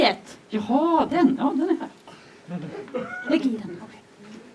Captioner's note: audience laughs